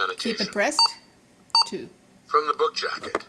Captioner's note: device beeps twice